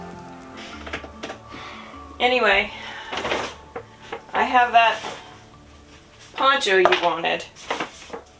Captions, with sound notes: *Fingers tap impatient* Anyway... I have that poncho you wanted.